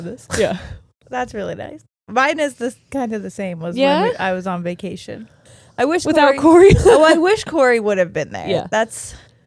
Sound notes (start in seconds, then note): 6.9 giggling